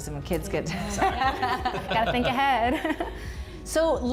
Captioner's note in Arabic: يضحك الجميع